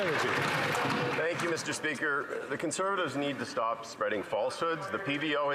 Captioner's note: some Applause